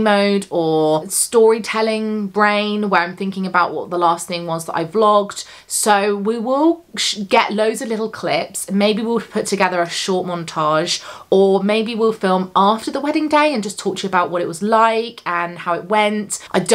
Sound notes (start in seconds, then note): none